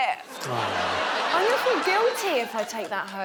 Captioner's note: audience laughing